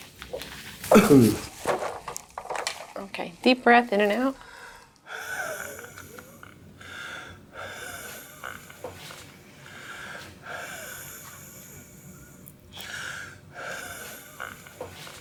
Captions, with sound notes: (coughing) - Okay. Deep breath in and out. (breathing)